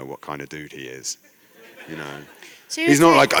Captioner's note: laughter